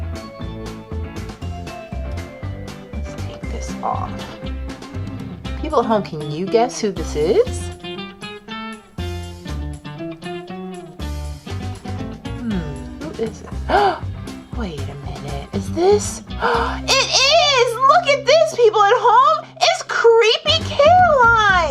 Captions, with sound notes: (playful music) Let's take this off. People at home, can you guess who this is? (playful music) Hmm, who is it? (gasps) Wait a minute, is this? It is, look at this, people at home, it's Creepy Caroline!